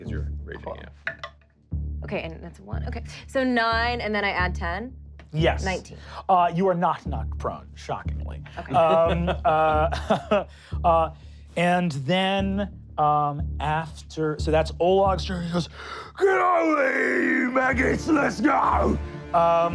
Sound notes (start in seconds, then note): 1.3 rolling dice; 8.4 laughing